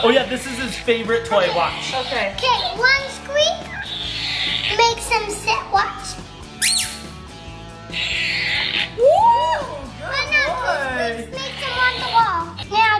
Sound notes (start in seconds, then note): 6.6 squeak